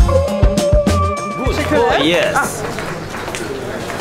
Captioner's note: Turkish